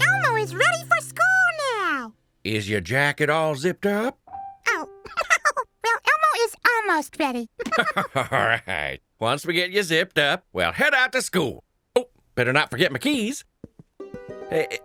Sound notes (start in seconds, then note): 4.9 laughs